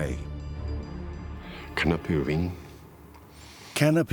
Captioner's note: speaking German